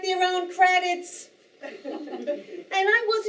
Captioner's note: audience Laughing